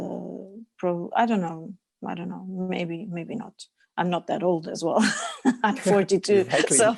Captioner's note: laughs